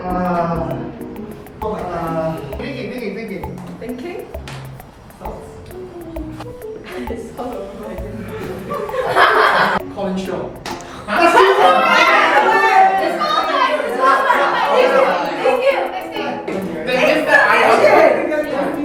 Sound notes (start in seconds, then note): 0.1 groans in pain; 8.1 sighs; 8.3 laughs; 11.1 everyone exclaims